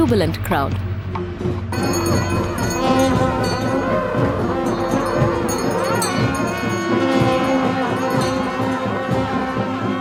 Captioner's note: reed pipe sound; soft drumming; bells chimes; trumphet blowing